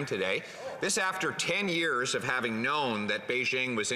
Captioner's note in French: voix de l'interprète